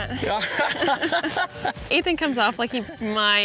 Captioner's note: chuckling